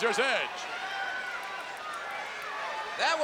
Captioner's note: crowd yelling